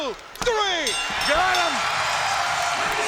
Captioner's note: bell rings